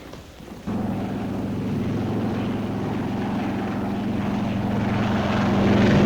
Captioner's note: roar of aircraft engines